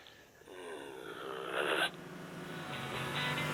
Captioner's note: groan; Warthog Revving